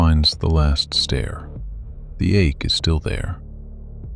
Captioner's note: soft voice